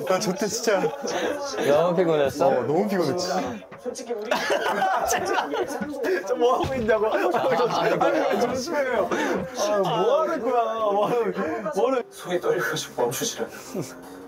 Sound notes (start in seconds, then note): 6.6 knock